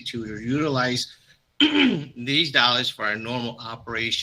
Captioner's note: clears throat